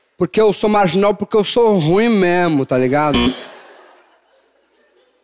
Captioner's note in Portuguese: campainha